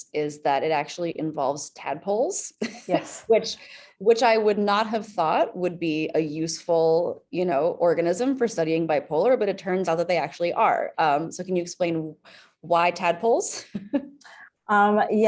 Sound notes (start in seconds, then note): 2.6 chuckles; 14.2 chuckles